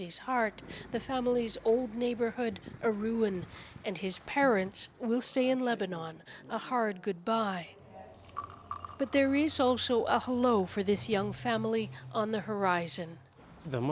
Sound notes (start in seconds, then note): none